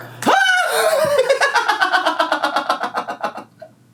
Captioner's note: laughs